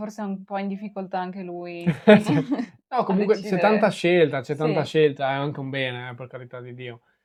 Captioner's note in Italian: risate